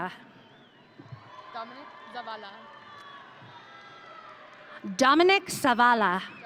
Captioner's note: audience cheering